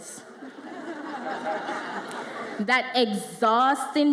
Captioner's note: audience laughs